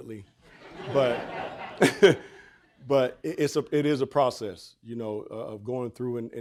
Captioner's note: audience laughing